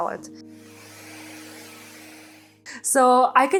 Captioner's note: gadget buzzing